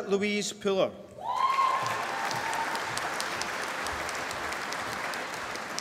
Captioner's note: applause